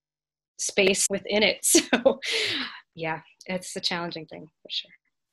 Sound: chuckles

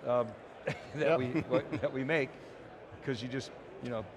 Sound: chuckling

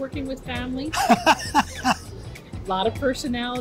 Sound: laughs

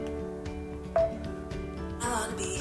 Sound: phone beeps

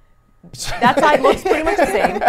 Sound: laughs

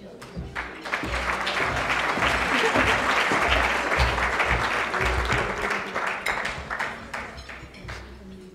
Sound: applause

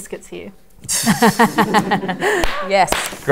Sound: laughter

